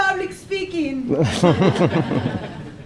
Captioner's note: laughing